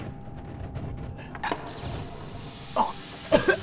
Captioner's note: loud bang, air hissing; coughing